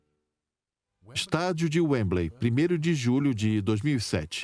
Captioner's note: voiceover